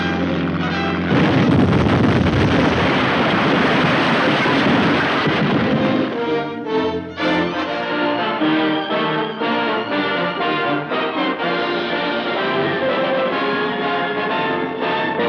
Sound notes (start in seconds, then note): 0.1 boat explodes